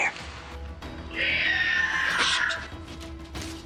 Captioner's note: screeching